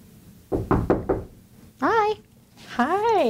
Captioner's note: knocking